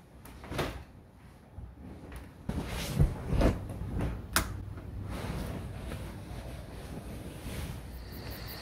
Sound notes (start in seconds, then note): 4.5 light switch clicks